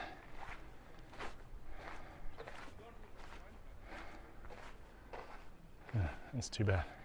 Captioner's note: background chatter